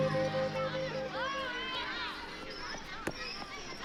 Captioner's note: children shouting and laughing in distance